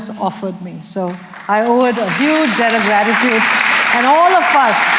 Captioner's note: applause